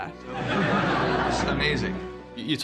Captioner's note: laughing